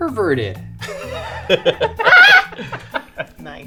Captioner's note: laughing